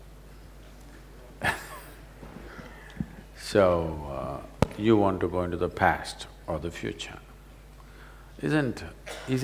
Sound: laughs

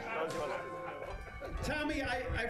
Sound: laughter

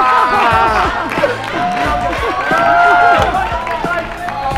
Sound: clapping, Yelling

